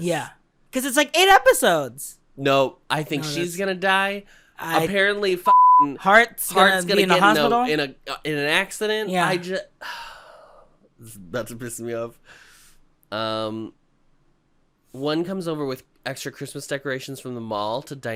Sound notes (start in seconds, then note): 9.8 sigh